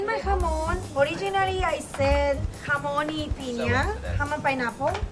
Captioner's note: speaking foreign language